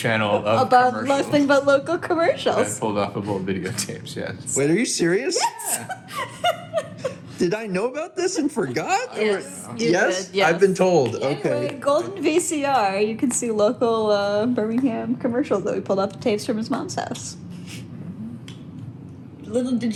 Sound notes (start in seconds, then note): 5.4 laughs